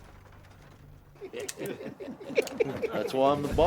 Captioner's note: guns clicking; gang chuckling